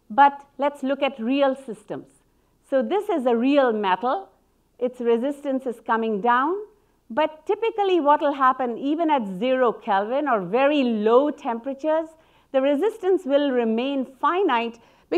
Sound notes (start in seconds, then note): none